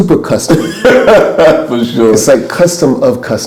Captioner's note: laughs